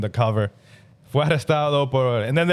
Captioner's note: speaking In Foreign Language